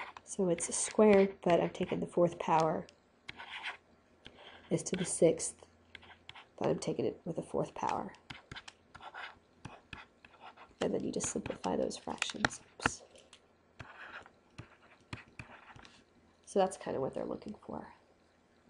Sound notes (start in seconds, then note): 8.9 scribbling; 14.6 scribbling